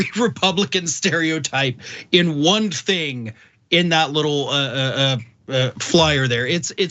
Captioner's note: laugh